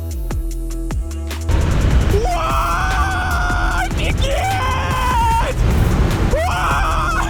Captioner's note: joyful cry